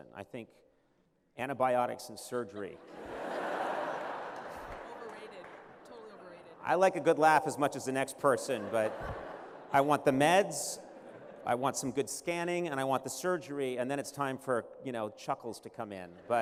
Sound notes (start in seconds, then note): 2.4 laughter